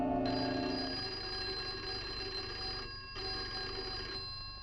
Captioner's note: phone ringing